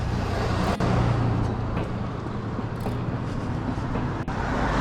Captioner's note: the roar of cars passing